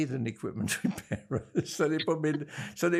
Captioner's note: laughing